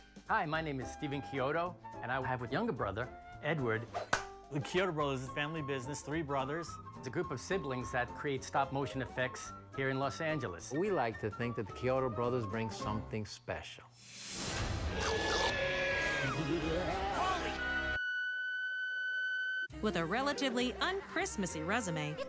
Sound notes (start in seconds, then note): 14.9 screaming; 17.4 nose beeping